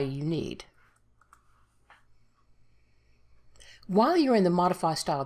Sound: keys tapping

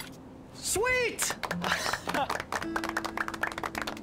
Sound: applause

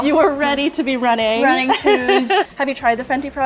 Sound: laughs

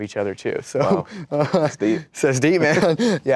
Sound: laughs

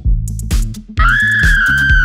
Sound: audible scream

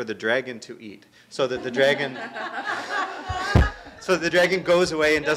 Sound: all laughing

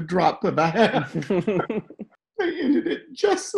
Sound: both laugh

